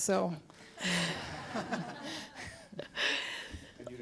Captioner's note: laughing